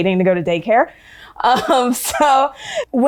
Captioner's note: laughing